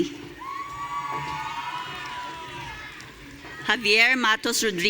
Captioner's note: audience cheering